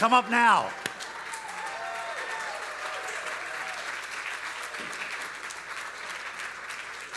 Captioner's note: audience cheering; audience applauding